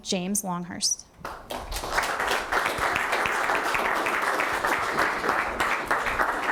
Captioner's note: audience applause